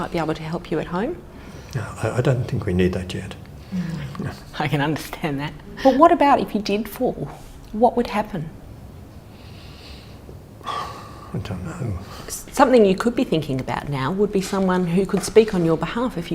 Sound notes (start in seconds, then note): 9.2 exhales